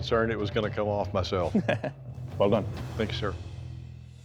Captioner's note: chuckles